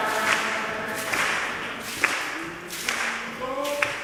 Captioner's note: choir clapping